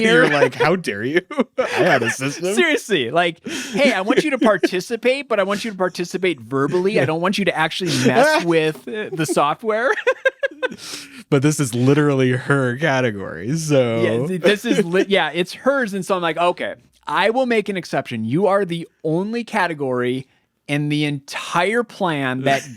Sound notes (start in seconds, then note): 0.0 laughs; 9.8 laughing